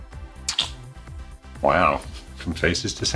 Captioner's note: clicking